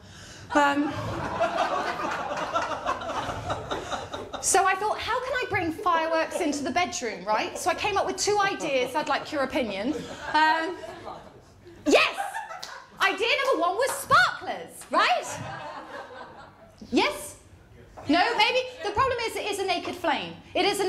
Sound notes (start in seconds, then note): 0.8 laughter; 10.5 audience member speaks; 17.1 audience member speaks